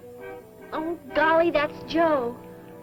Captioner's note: car tooting